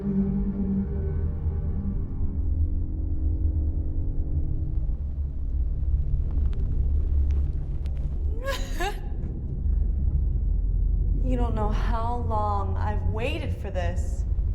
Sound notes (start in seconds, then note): 0.0 dramatic music; 8.4 laughter echoing